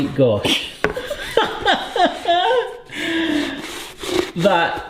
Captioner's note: laughs heartily